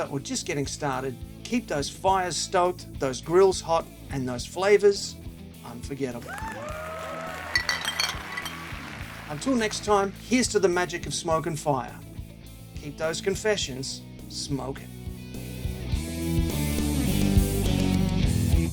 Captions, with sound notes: or just getting started, keep those fires stoked, those grills hot, and those flavors unforgettable. (crowd cheering) Until next time, here's to the magic of smoke and fire. Keep those confessions smoking. (rock music)